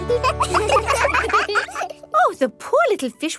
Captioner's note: children laugh